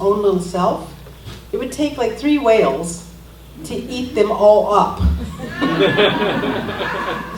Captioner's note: laughter